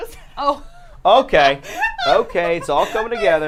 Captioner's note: laughing